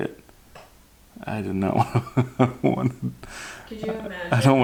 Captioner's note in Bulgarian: смее се